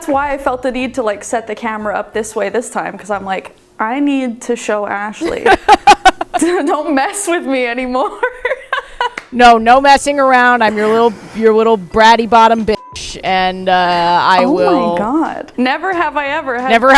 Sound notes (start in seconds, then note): 5.2 laughing; 13.4 beep